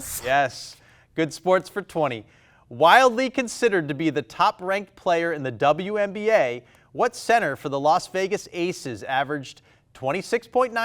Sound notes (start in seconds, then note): none